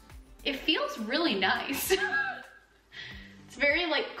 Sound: upbeat music; chuckles

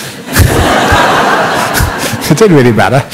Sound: laughter

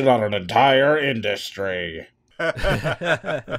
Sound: laughter

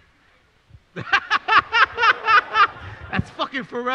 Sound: laughs

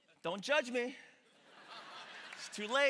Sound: congregation laughing

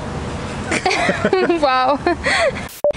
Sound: laughs

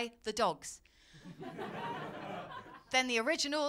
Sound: laughter

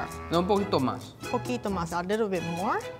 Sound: speaking in foreign language

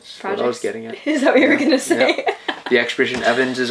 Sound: laughs

